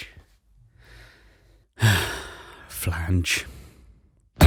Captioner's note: sighs